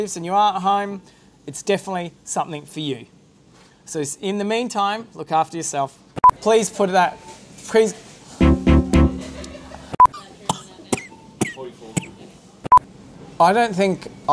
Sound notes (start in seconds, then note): 10.1 Corona Cough